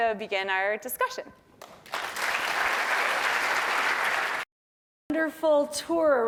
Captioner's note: applause